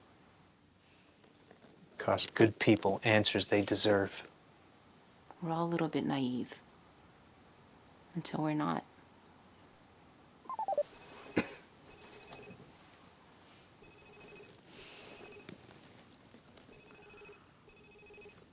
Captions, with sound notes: - It cost good people answers they deserve. - We're all a little bit naive until we're not. (monitor beeping) (phone ringing)